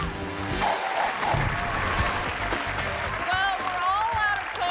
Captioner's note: audience applauding